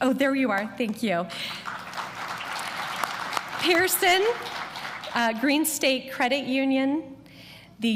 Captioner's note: applause